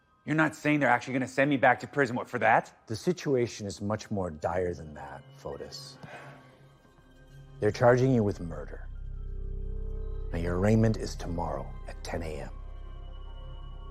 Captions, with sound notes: You're not saying they're actually going to send me back to prison, what, for that? The situation is much more dire than that, Fotis. [exhales] They're charging you with murder. Now your arraignment is tomomorrow at 10:00 AM. I've arranged for ththem to alw you to turn yourself in.